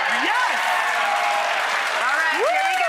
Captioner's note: applause